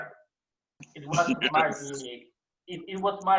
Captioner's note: chuckle